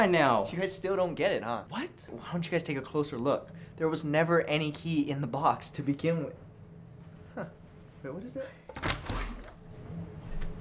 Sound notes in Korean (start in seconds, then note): 8.7 문 열리는 소리